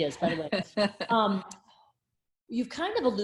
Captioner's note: laughs